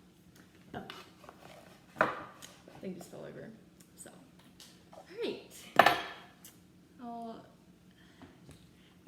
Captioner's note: wooden fruit bowl and cook book hitting the counter